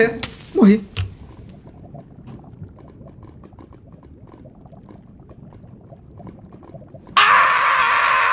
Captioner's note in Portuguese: som de lava borbulhando